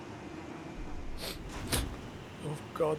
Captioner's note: sniffles